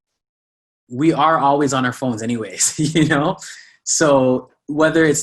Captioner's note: laughs